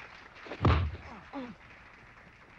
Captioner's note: thud